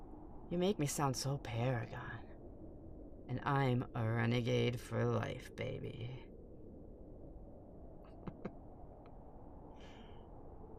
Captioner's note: chuckle